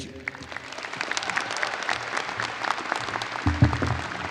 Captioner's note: audience applauds